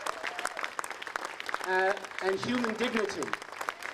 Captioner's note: applause